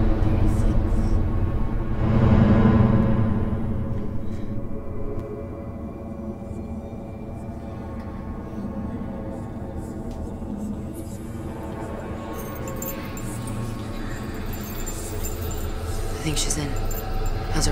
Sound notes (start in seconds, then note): 0.9 dramatic music; 7.7 eerie whispering